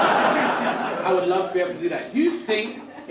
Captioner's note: audience laugh